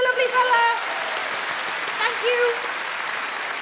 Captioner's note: audience clap